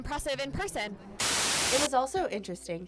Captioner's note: static buzzes